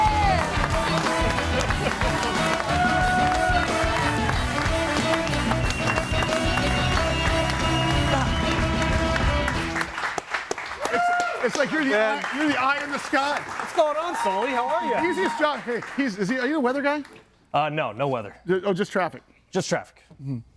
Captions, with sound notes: (upbeat music) (person laughs) (audience cheers and applauds) (upbeat music) (audience applauds) - It's like you're the eye in the sky. - What's going on, Sully? How are you? - Easiest job. Are you a weather guy? - No, no weather. - Oh, just traffic? - Just traffic. - Mm-hmm.